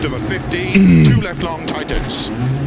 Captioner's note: groans